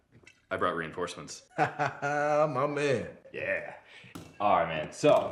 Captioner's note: laughs